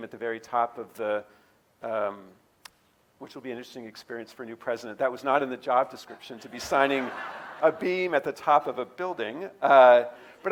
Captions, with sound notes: at the very top of the, which will be an interesting experience for a new president. That was not in the job description (audience laughing) to be signing a beam at the top of a building.